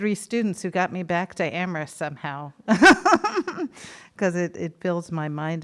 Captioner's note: laughs